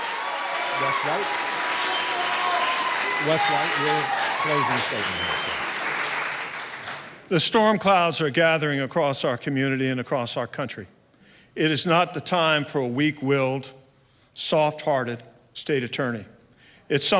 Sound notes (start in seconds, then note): 4.1 applause; 4.1 cheering